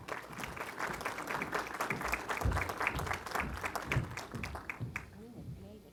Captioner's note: applause